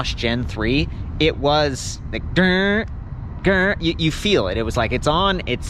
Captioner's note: imitates roaring motor